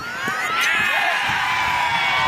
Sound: crowd cheers

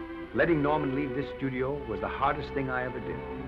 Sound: none

